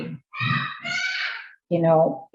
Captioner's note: baby shouts loudly